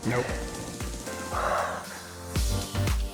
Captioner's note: exhaling deeply; bright music